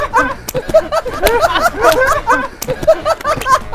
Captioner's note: laughing so hard he can barely breathe